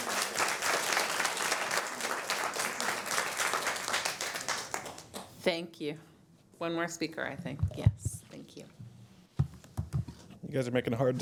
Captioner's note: applause